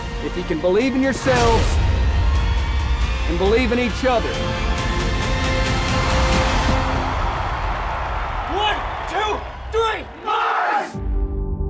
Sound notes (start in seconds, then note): 5.3 crowd cheering; 5.3 dramatic music